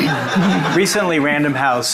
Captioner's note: audience laughing